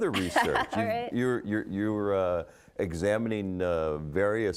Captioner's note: laughing